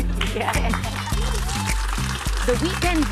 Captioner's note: laughing